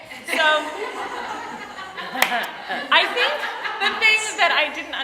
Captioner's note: audience laughing